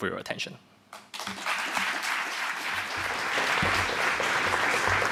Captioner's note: applause